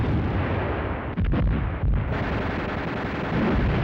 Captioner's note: guns firing